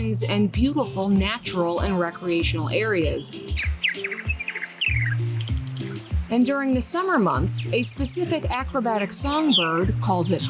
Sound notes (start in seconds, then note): 3.4 birds chirping; 3.4 lively upbeat music